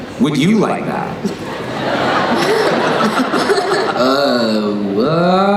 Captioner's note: laughing